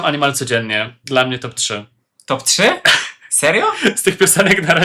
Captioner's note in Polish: śmiech